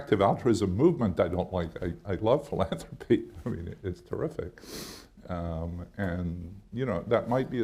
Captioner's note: chuckles